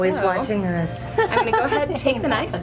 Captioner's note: laughter